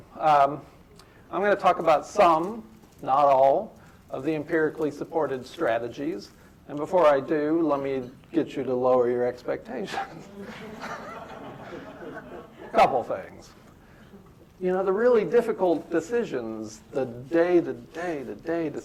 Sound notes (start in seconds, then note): 10.1 laughter